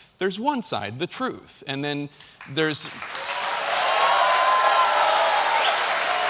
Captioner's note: applause